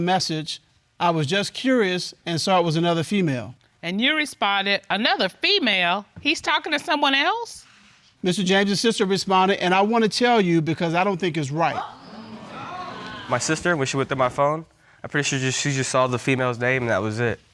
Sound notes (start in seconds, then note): 11.6 audience exclaiming